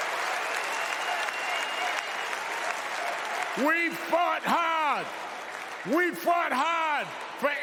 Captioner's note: cheers and applause